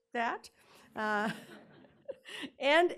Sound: laughing

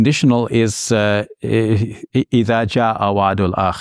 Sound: speaks in Arabic

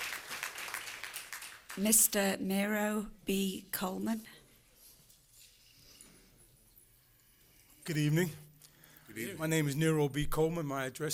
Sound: applause

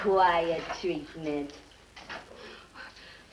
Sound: Midge heaves

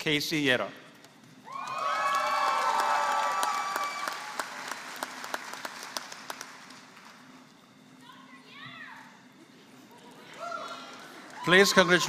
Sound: applause

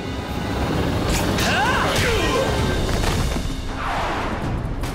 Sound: wincing

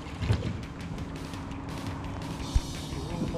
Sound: birds chirping; fish splashing

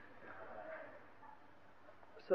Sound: laughing

